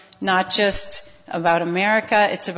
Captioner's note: none